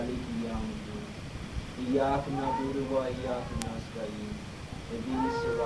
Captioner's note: speaking in foreign language